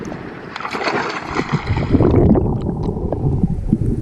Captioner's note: splashing